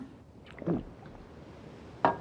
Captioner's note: gulps